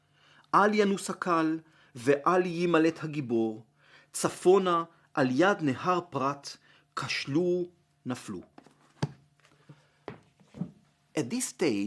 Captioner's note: Hebrew